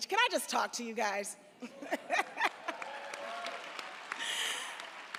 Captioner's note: audience applauds